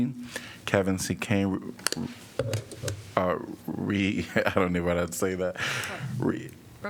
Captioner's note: laughter